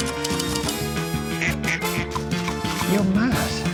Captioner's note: ducks squawking; typewriter keys clicking